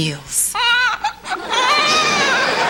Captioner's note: cries